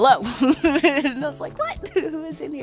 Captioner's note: giggles